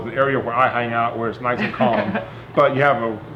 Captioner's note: laughing